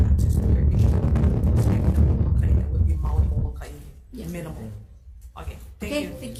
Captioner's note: static from microphone drowns out